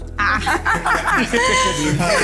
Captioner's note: laughs